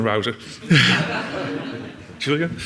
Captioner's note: audience laughs